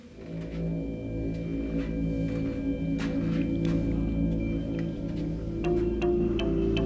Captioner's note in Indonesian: suara langkah kaki